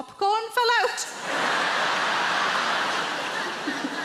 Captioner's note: crowd laughs